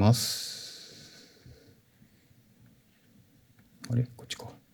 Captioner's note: silence